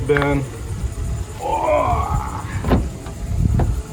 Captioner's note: groans